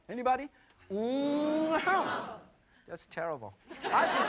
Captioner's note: foreign language; audience laughing